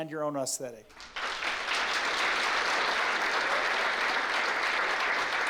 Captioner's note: applause